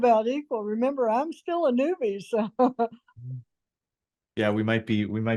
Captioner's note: laughs